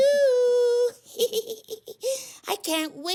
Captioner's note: chuckles